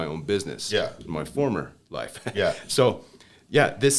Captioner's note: laughter